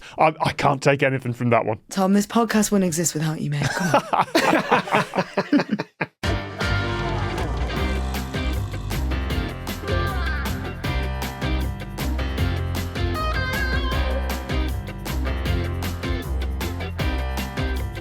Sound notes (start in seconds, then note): 3.6 laugh